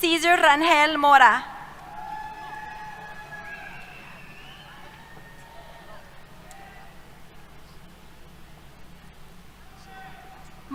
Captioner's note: cheers